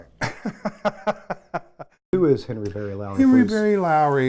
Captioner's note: laughing